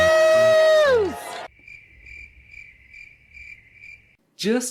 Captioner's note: cricket chirps